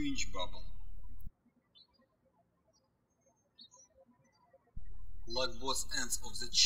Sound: birds chirping

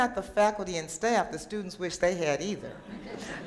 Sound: laughter

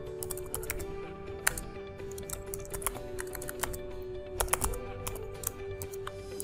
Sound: typing code

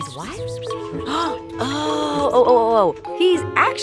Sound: gasping

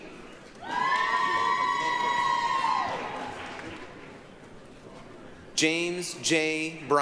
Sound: applause, cheering

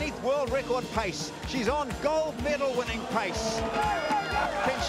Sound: crowd cheer

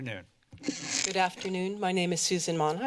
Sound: mic noise

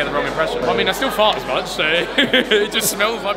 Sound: laugh

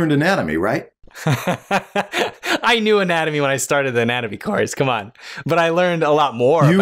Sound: laughter

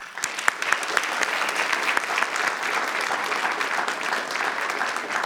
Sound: audience applauding

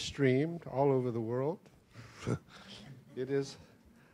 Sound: laughs

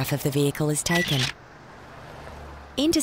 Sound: camera clicks

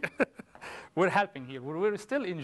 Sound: laughter

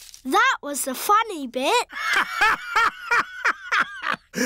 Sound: laughs

